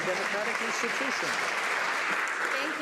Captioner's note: some Applause